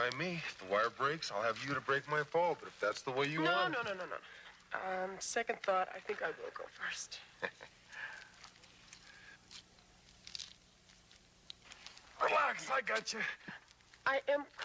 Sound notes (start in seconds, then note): 7.4 Dan chuckling